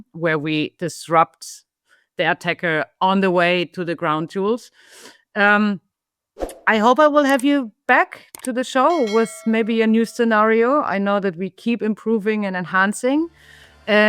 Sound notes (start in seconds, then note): 7.4 button clicks; 8.8 bell dings; 13.9 upbeat music